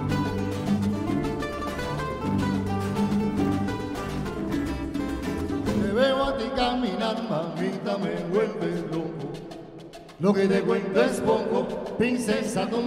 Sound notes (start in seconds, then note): 6.2 band speaking foreign language